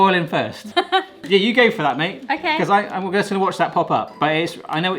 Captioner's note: laughter